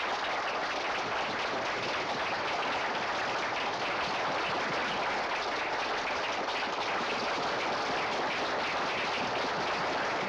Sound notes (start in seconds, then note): 5.5 applause continues